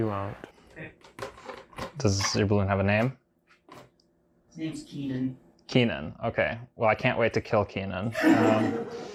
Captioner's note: laughs